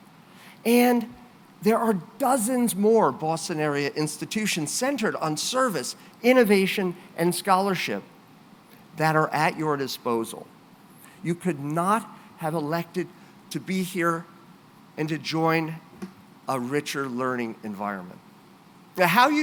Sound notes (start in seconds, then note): none